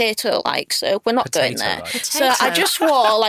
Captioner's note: chuckles